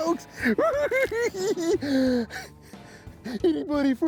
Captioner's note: cackling